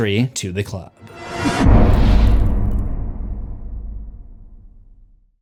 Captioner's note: impact